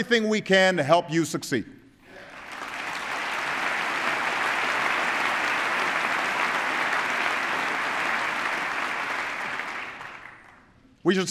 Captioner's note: applause